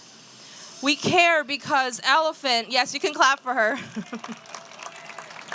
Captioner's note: applause